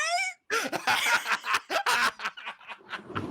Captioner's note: laughs